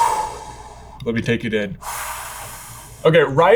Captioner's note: exhaling